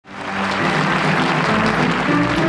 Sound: crowd applauds

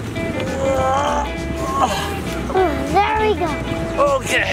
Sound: grunting

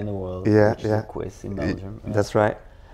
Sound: in foreign language

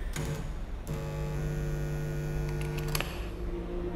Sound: electrical buzzing

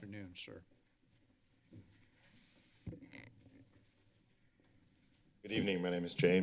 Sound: silence

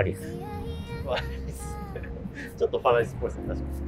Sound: laughing

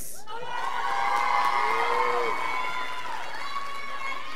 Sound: graduates applauding

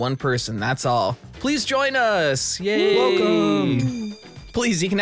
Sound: cheers

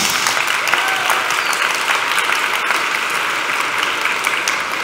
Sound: applause

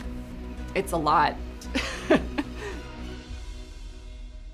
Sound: laughs

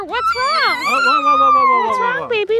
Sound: crying

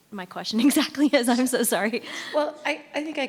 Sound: chuckles

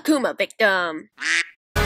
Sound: quack

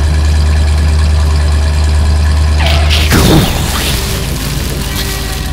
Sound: engine noise; explosion; skid

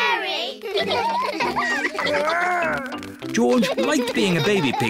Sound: all laugh

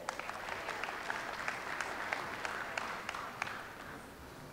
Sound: audience applauds

